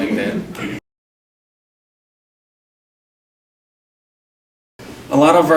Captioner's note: silence